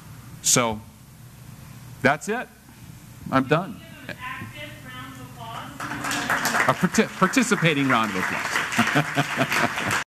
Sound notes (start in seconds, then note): 5.5 applause; 8.7 laugh